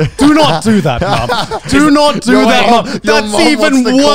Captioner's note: laughing